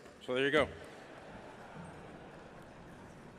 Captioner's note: laughter